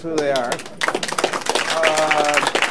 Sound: applause

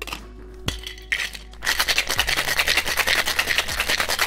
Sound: ice rattling

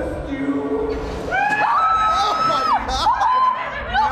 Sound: screams; laughs

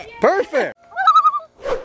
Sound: loon call

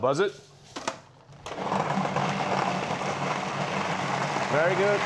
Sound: whirring

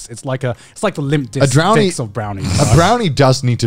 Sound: laughing

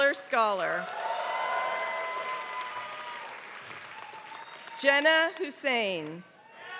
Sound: applause

